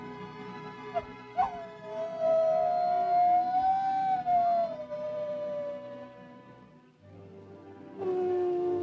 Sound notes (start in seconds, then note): 0.0 soft music; 2.0 Mowgli howls; 8.0 wolves howling